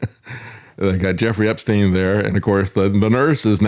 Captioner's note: laughs